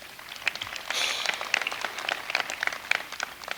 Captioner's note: applause